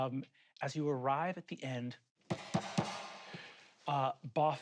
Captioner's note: fist thudding